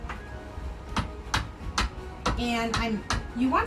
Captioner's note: hammer knocks